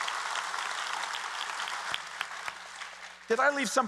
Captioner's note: applause